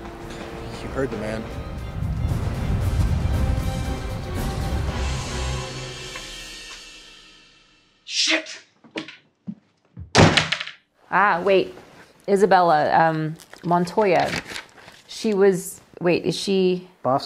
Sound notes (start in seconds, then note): 2.7 tense music; 9.9 door bangs